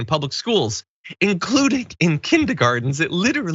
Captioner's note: laugh